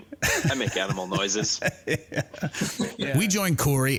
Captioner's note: laughs lightly